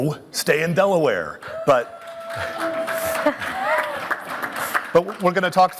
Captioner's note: applause and cheering